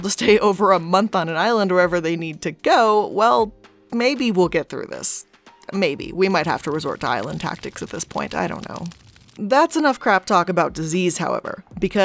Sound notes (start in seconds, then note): 8.9 fire burning